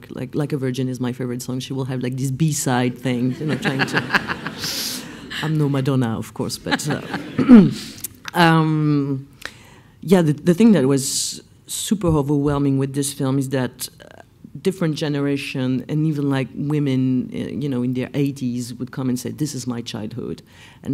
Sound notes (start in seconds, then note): 3.3 laughs